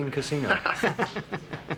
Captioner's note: Joe laughing